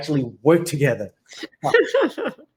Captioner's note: laughs